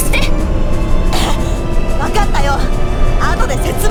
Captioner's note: gag